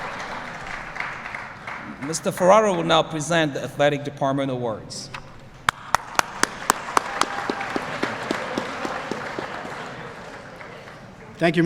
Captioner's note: applause